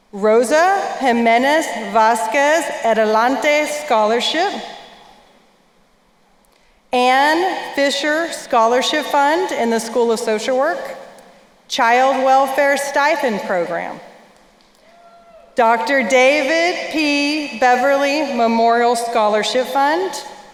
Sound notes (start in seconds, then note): none